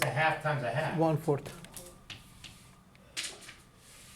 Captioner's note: voiceover